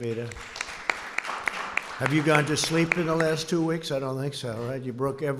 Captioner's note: applause